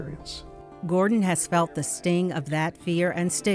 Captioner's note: voiceover